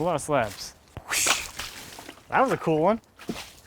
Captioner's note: water splashing